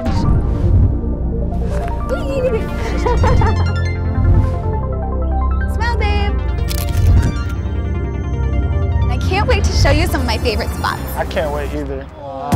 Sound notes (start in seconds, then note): 0.3 gentle music; 2.0 laughs; 4.3 gentle music; 7.3 gentle music